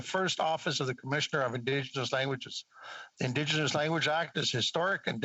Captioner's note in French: voix de l'interprète